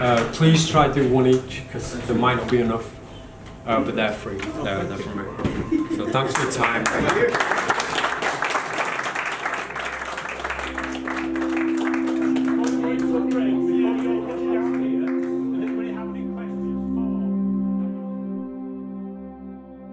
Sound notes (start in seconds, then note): 7.2 applause; 10.3 calm music; 17.4 calm music